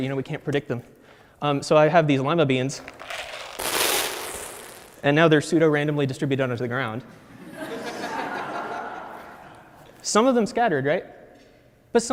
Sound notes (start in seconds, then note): 2.6 beans hit the floor; 7.2 audience laughs